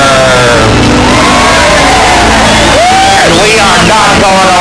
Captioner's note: crowd cheers